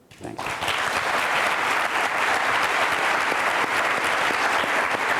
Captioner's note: audience applauds